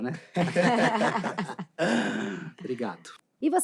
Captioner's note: risos